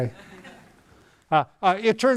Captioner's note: audience laughing